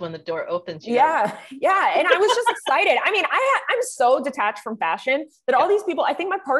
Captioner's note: laughs